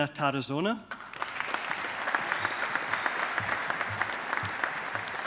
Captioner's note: audience applauding